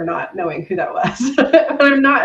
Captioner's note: laughs